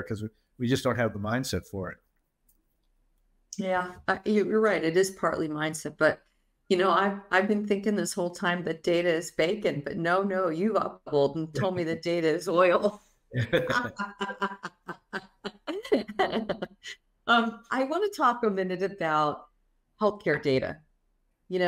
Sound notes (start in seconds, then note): 13.3 both laughing